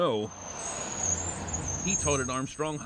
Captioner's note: bus brakes